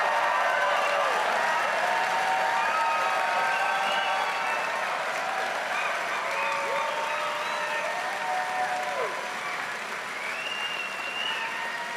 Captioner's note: cheering and Applause